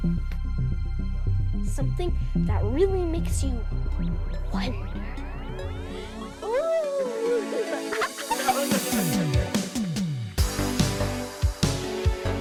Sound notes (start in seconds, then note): 5.6 makes spooky noises then laughs. Dad joins in laughing